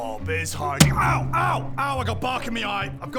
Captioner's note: bang